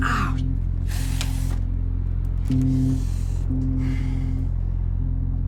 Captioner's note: winces